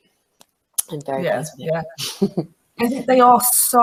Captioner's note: chuckles